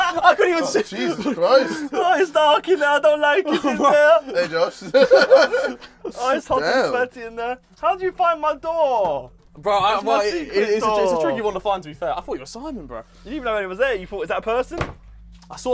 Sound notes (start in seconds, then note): 0.0 laughing; 6.8 laughs